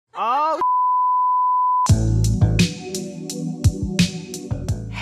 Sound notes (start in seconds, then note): 0.6 beep; 1.8 smooth instrumental music